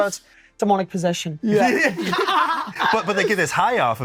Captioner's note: all laugh